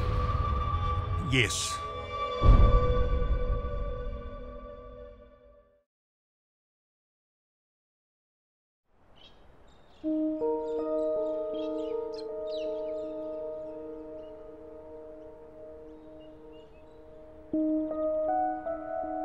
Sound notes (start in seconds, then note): 9.1 birds chirping; 11.8 mysterious music